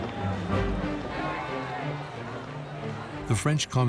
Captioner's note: crowd chants indistinctly